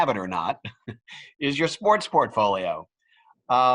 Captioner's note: laugh